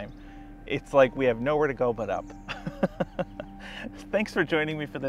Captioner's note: laughs